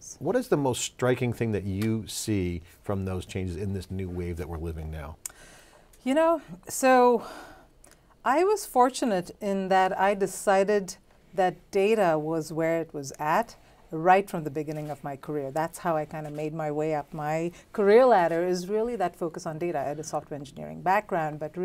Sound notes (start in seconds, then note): 5.3 sharply exhales